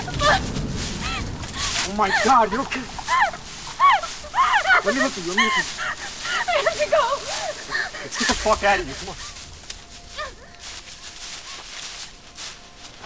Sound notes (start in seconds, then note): 6.1 Veronica sobbing